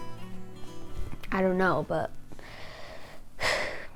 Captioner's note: sighs